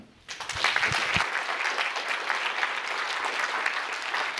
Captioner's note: applause